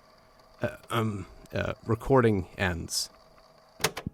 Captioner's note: tape clicks off